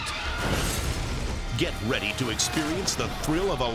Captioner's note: flames whoosh